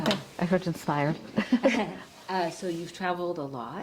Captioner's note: chuckles